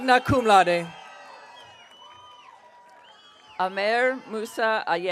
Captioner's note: audience cheering